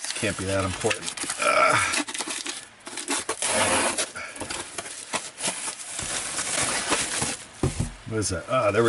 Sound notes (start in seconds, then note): 1.2 groaning; 1.5 rustling sound